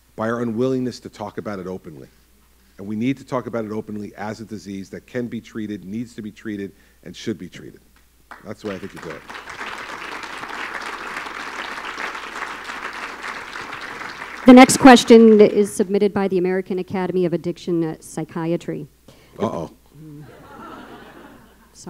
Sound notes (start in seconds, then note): 8.2 applause; 20.2 laughter